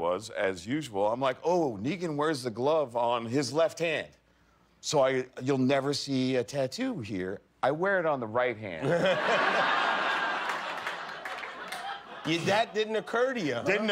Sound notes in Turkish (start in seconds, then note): 8.8 kahkahalar